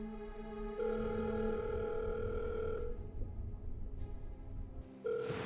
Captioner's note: phone ringing